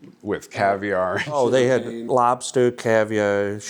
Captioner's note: laughing